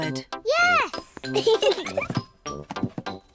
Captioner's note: both giggle